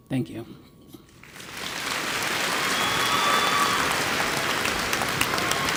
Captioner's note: audience applauds and cheers